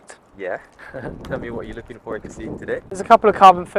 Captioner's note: laughs